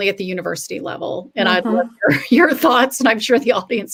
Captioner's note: laughter